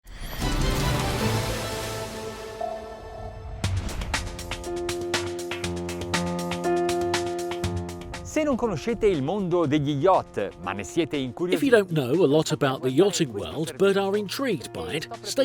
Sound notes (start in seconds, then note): 0.2 dramatic music; 8.4 man speaks in foreign language